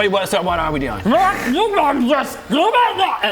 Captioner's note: Angry murgol noises